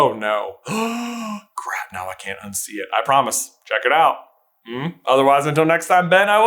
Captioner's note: gaaaaasp